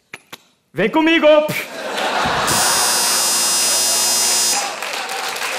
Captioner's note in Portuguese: campainha